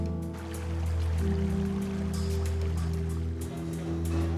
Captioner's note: intriguing music; water sloshing